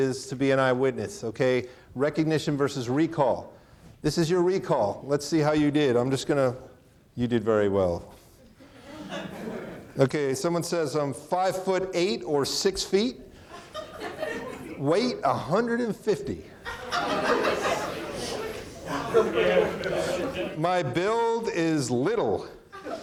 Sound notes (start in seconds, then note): 8.6 audience laughing; 13.4 audience laughing; 16.6 audience laughing; 22.7 chuckles; 22.7 audience laughing